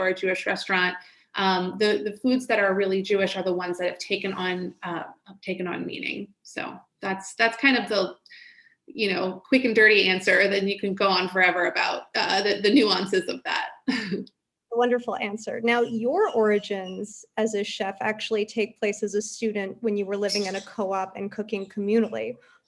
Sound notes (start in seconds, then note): 13.3 laughs